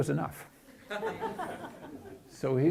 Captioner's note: chuckling